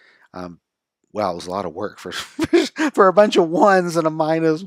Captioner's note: laughs